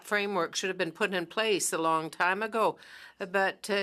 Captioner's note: speaking French